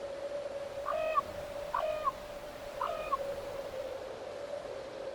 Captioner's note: bird cawing